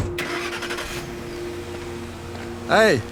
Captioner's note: truck starts